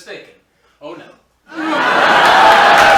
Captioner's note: laughter